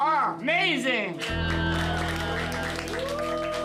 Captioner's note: cheers and applause